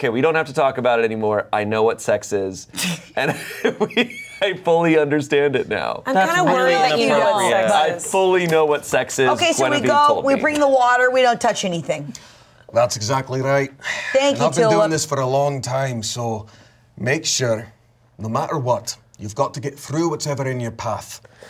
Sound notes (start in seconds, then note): 3.1 laughs